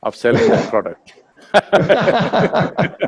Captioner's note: both laugh